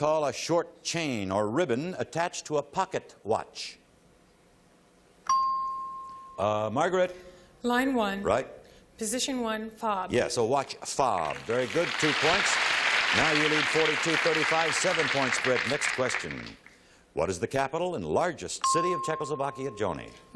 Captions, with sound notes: Next question, what do you call a short chain or ribbon attached to a pocket watch? [ping] Margaret. - Line 1, position 1, "fob." - Yes, a watch-- fob. Very good. Two points. Now you lead 40 to 35, seven-point spread. Next question, what is the capital and largest